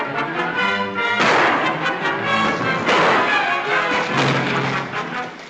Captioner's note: tense music; gunshots